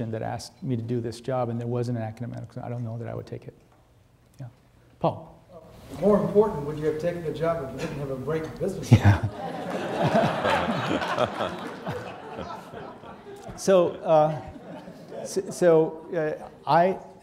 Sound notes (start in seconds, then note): 8.9 audience laughing